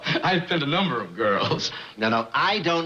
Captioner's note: chuckles